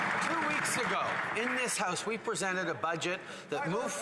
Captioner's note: applause